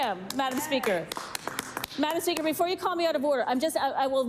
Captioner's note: applause